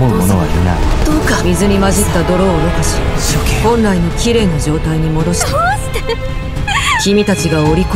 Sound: why... *sob

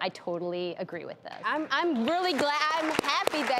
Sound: audience applauds

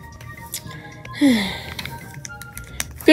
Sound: sighs

